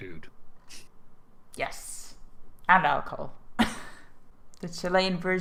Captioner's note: laugh